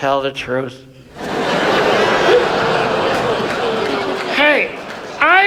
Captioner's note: audience laughs